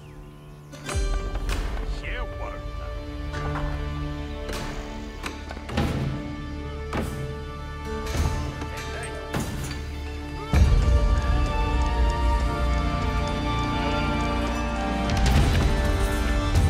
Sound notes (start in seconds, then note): 1.9 townspeople chattering; 6.4 hammer clanging